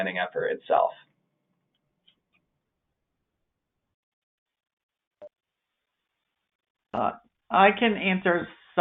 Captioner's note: silence